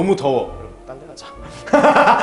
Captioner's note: whispers